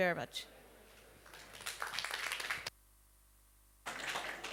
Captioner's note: applause